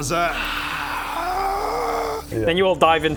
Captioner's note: hrggggh